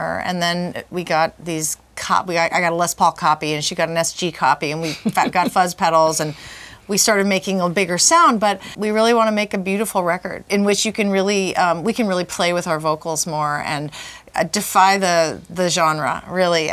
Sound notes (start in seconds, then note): 4.8 chuckles